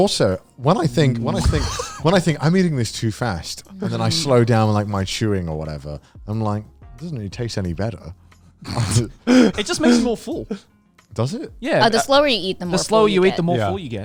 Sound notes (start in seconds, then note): 9.2 laughing